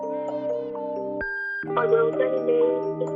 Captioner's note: tone